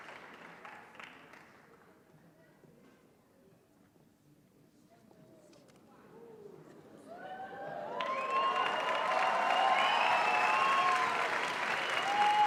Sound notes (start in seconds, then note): 8.7 cheering